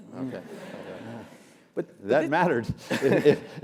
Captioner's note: laugh